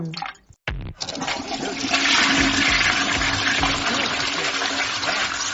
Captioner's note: toilet flush